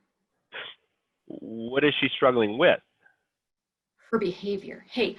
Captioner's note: chuckles